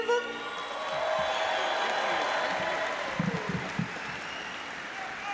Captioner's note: audience applauds